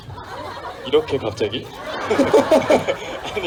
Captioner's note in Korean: 웃음